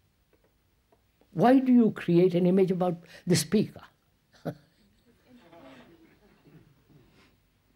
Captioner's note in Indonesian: Tertawa